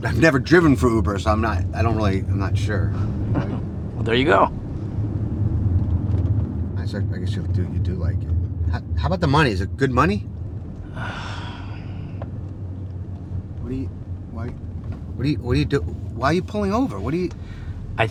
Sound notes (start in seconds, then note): 10.8 sighing